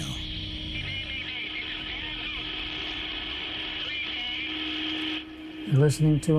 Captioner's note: man on radio